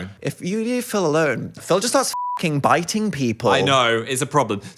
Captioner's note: beep